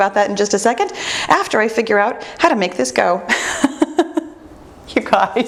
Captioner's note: laughs